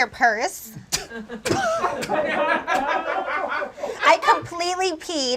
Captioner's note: audience laughs